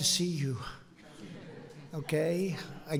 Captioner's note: laughter